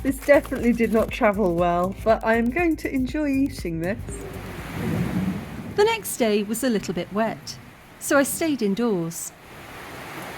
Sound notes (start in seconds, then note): 4.1 heavy rain